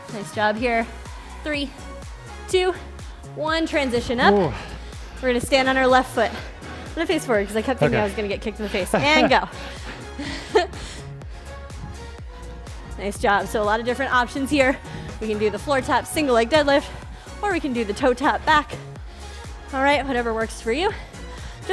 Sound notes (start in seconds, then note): 8.5 laughs; 10.2 upbeat music